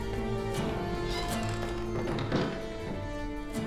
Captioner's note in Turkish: Kapı kapanma sesi